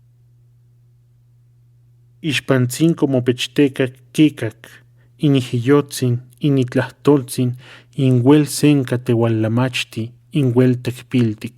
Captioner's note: her breath